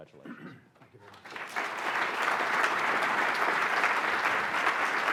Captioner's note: applause